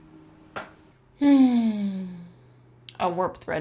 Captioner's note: very disappointed sigh